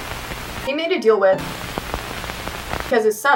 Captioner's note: tv static; more sound effects